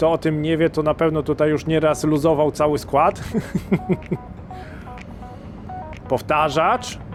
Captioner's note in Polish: śmiech